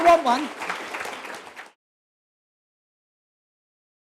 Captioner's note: applause